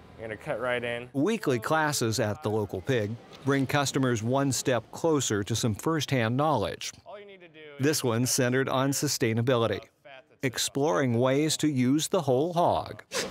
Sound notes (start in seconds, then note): 1.5 voiceover; 7.9 voiceover